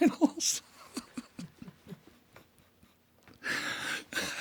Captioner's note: John laughing